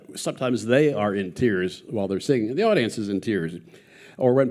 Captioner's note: none